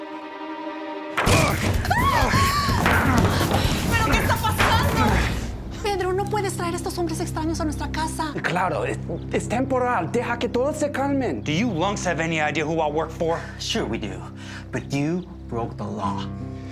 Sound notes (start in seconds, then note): 1.2 door opens suddenly; 1.2 screams; 4.3 guadalupe speaking spanish; 9.2 pedro speaking spanish